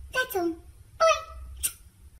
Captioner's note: smooch